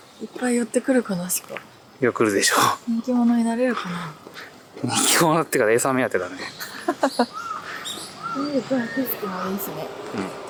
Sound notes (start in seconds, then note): 4.3 laughs